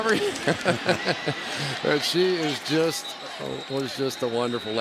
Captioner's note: laughs